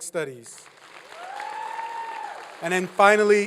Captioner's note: applause